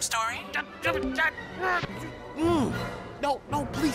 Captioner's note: grumbling